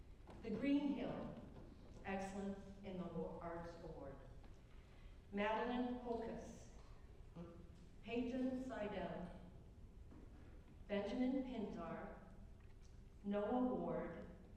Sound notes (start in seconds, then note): none